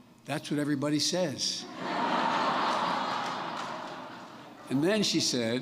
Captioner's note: laughter